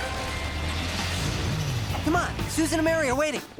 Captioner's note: car starts